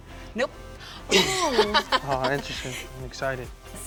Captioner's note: laughs